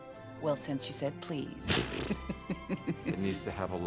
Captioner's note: chuckling